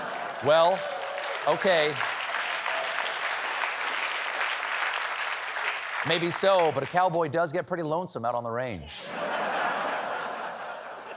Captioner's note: applause